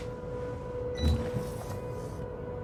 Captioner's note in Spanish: pitido